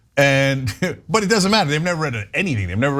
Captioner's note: laugh